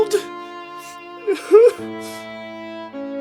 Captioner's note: sobs